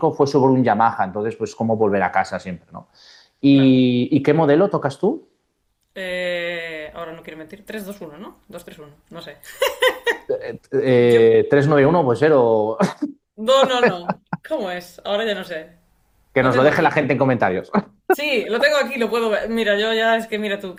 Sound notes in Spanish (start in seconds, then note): 11.1 risas